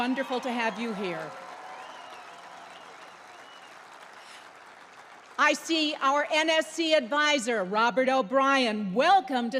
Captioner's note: applause